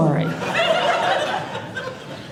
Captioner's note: audience laughing